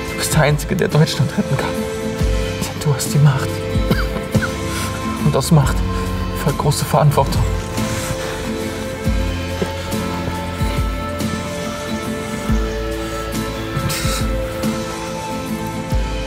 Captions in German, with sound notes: Du bist der einzige, der Deutschland retten kann. Du hast die Macht. *Husten* Und aus Macht folgt große Verantwortung. *Tragische Musik*